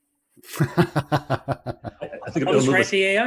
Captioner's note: laughs